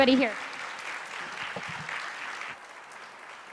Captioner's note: applauding